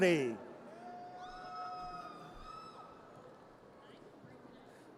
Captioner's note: audience cheers